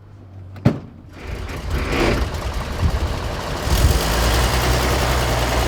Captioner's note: engine starting